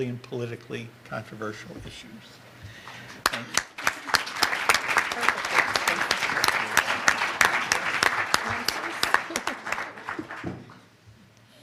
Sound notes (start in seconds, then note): 2.9 audience applause